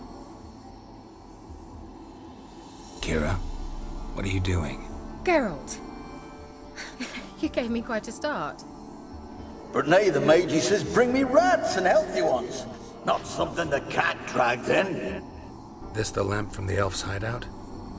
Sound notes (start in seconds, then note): 6.8 chuckle